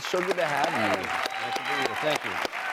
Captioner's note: audience applause